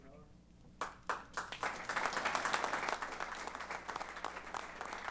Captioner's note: applause